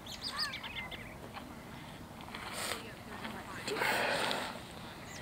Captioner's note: birds chirping